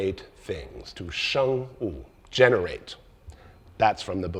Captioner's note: speaks in foreign language